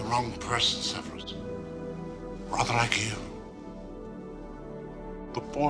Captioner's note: none